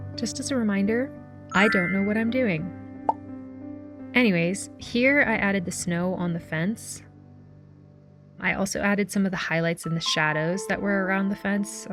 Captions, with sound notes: Just as a reminder, I don't know what I'm doing. [sparkle sound] Anyways, here I added the snow on the fence. I also added some of the highlights and the shadows that were around the fence,